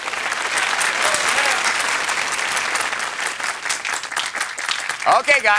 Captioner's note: applause